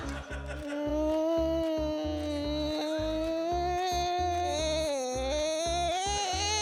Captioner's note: hums whiningly